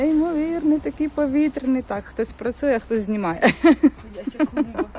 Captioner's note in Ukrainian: сміх